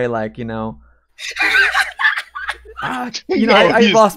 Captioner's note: laughs